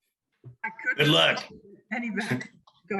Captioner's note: speaking faintly